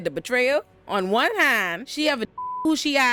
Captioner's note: beep